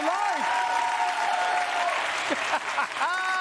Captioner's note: cheering; laughs